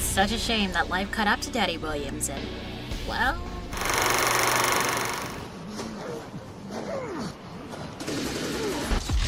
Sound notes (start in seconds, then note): 6.0 struggle sounds; 8.0 gun being fired